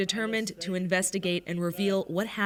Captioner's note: speaking Foreign Language